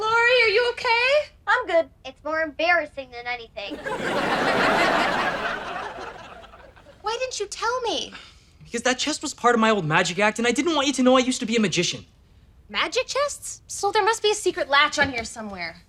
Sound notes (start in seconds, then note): 1.3 voiceover; 3.7 audience laughter